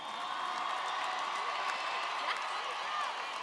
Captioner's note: audience applauding